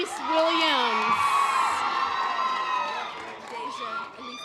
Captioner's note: audience applause